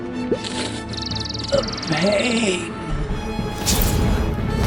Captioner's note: huff